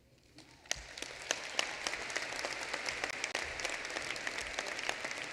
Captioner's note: applause